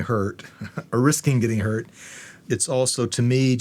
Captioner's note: chuckles